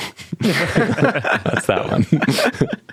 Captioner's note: participants laughing